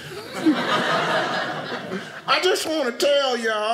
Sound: audience laughing

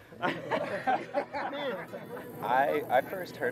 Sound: laughing

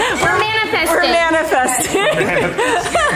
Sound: laughs

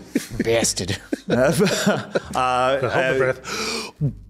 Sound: chuckles

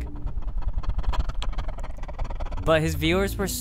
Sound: breathing rapidly

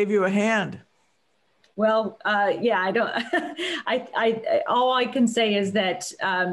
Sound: laughter

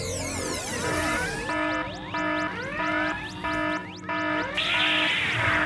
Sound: alarm!

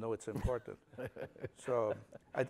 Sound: laughter

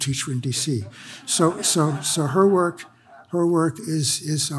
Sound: audience laughs

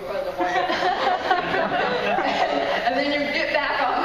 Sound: laughing

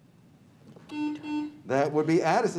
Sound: buzzer beeps

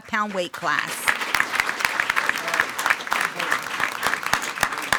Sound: everyone applauding

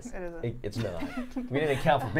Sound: chuckling

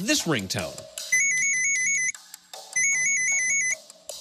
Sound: high-pitched ringing

